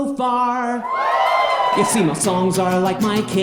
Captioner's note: audience cheers